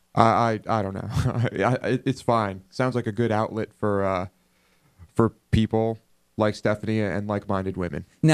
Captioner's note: laughs